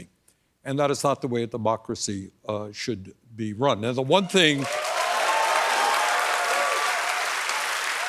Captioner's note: applause